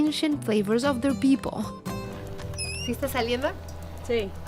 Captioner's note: speaking Spanish